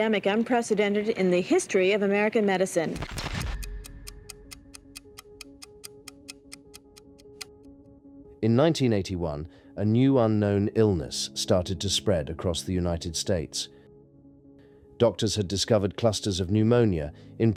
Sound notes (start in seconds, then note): 3.2 clock ticks